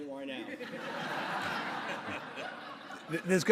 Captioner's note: audience laughter